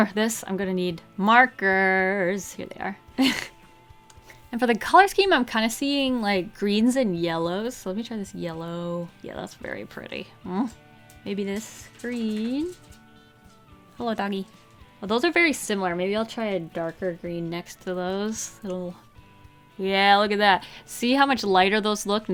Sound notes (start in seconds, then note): 14.4 dog walking about